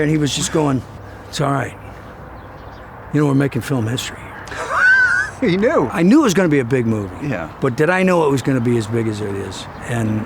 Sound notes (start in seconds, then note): 4.4 laughs